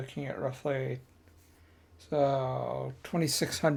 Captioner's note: silence